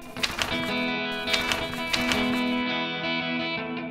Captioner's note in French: bruissement des pages